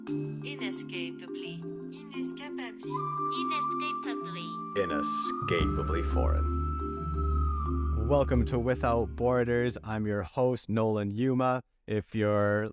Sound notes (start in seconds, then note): 0.8 voices